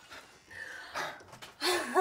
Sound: Maha gasps; both laughing

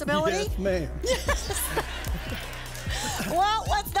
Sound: laughter

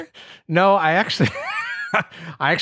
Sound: laughs

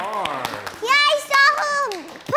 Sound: applause

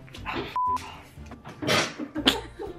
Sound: beep; laugh

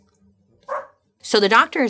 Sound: dog barking

